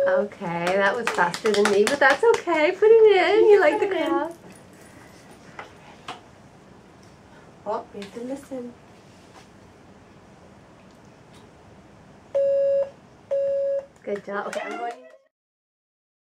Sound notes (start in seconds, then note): 12.3 beep beep